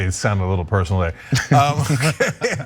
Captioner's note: laugh